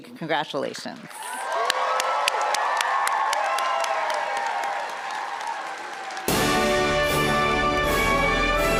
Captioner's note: applause and music